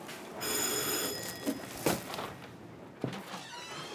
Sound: bell rings

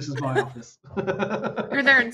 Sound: laughs

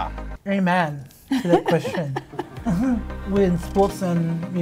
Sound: laughs

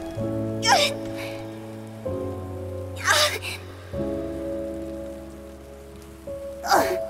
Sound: Hu Tao wails in pain

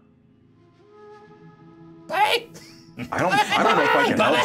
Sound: co-hosts laughing

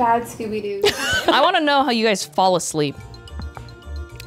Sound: laughs; playful music

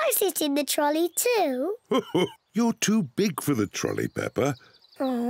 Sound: chuckles

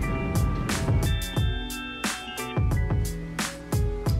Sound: alarm goes off

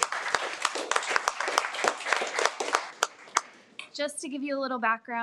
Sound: audience clapping

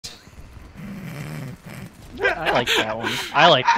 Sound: laughing and chortling

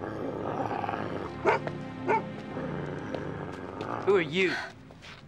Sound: Elvar growls

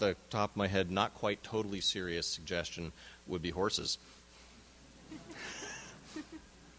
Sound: audience laughs

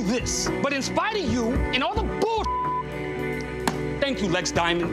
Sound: beeps

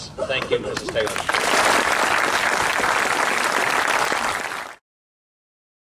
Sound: applause

